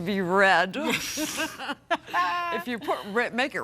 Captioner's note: both laughing